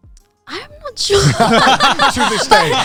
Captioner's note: all laughing